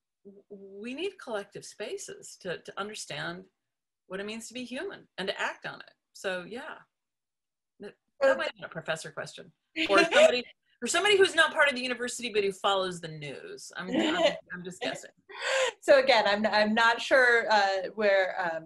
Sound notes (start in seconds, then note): 9.9 laughs; 15.5 laughs